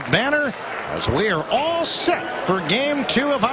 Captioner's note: applause